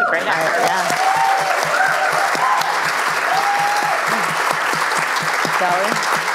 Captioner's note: applause